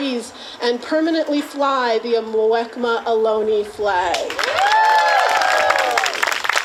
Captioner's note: claps